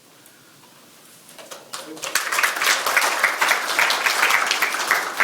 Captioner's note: audience clapping